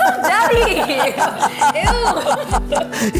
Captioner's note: laughing